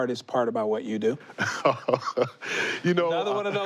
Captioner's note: laughs